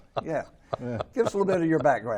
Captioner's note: group laughing